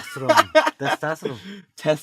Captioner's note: laughter